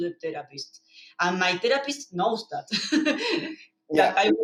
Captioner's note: laughs